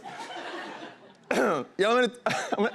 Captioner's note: clears throat